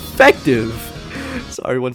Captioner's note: inhales